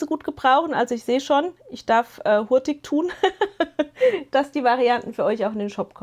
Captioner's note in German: gelächter